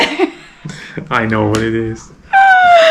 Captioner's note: laughing; laughing